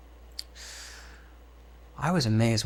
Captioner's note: sigh